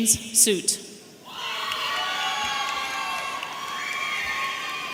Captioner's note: audience cheering